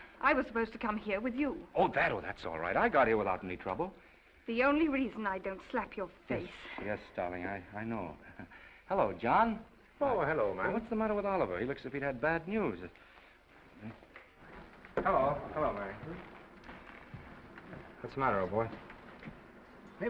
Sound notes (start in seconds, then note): 8.2 chuckles